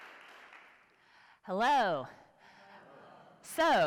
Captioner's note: applause